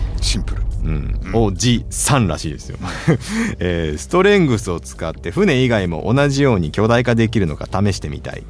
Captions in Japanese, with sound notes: シンプル。 うん。3 らしいですよ。え、ストレングスを使って船以外も同じように巨大化できるのか試してみたい。確かに謎ですね。なんということでしょう。うちのボロでちっちゃかった自宅もエテコーの手にかかれば合定にフォーアフターですね。これね、 [笑い]